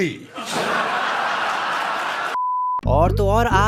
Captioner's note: laughter